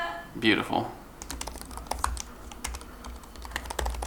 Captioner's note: keyboard clicking